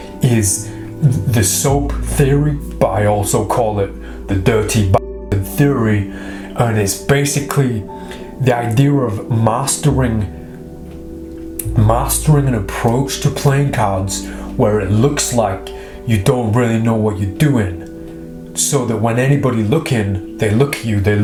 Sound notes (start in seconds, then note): 5.1 swearing